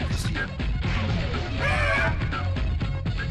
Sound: Mysterio yells in frustration

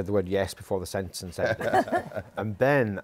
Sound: laughter

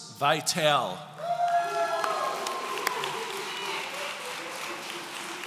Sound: audience cheering

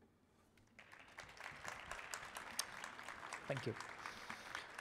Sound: audience applauding

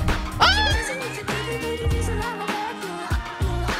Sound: yelling

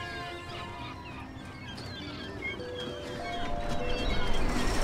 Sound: seagulls squawking; gate jingling

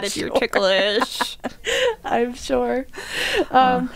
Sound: laughing

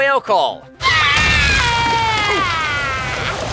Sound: Pearl sobbing

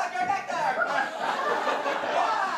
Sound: audience laughter

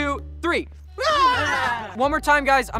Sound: all cheer

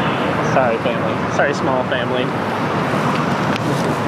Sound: speaking normally

